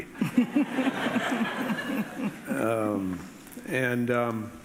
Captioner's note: audience laughing